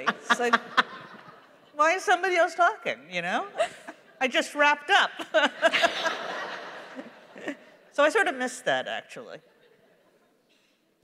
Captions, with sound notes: [laughter] Why is somebody else talking, you know? I just wrapped up. [laughs] [laughter] So I sort of miss that, actually.